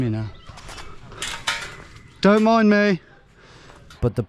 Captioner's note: fence clinking